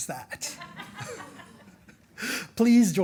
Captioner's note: audience laughing